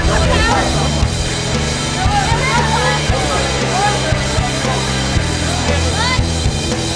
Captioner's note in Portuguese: torcedores gritando